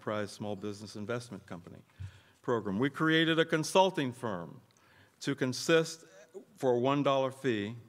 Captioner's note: none